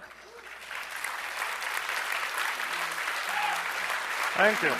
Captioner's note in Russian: аплодисменты